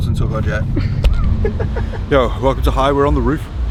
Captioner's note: man laughing